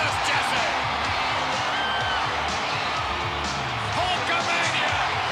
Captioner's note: crowd cheering continues; lively music continues